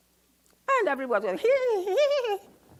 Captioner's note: mimics giggling